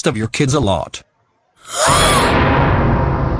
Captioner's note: gasps